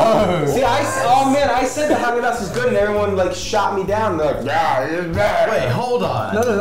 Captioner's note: mumbles imitating others